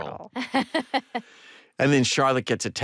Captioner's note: laughs